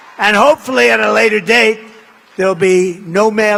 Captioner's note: applause